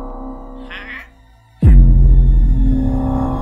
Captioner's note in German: Explosion